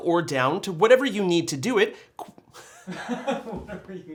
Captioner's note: laugh